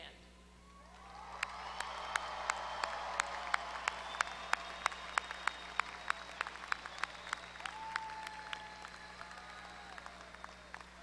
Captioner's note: applause